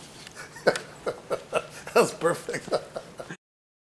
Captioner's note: laughs